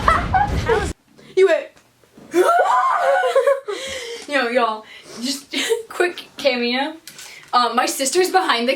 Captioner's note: gasps